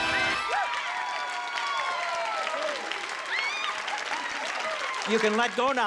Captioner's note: cheering